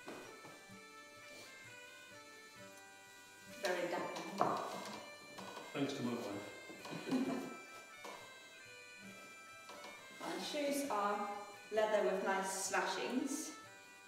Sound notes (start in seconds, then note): 3.5 chair creeks; 6.8 both laugh